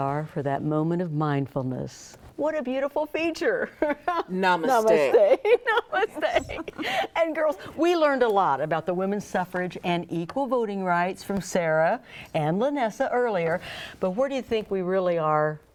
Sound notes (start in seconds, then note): 4.7 laughs